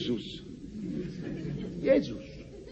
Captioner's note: laughs